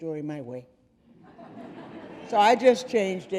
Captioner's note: audience laughing